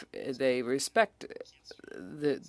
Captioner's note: speaking French